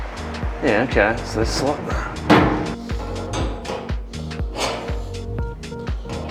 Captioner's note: murmurs